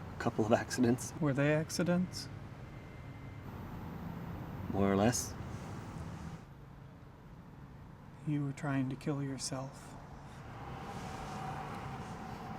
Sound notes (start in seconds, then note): none